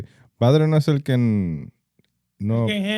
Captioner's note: speaking In Foreign Language